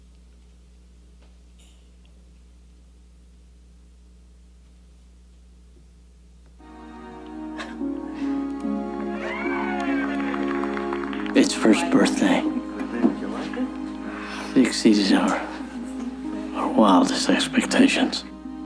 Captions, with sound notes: (people in movie clapping and cheering) - His first birthday. He exceeds our wildest expectations.